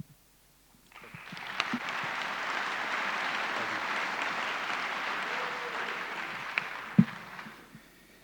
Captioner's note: applause